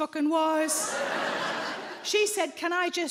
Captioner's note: audience laughs